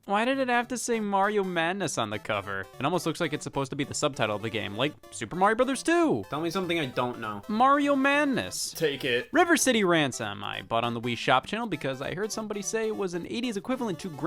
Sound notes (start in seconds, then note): none